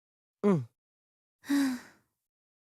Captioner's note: sigh